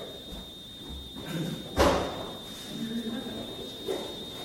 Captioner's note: background chatter